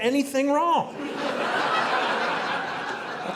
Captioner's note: audience laughing